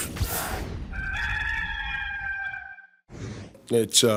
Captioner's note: rooster crowing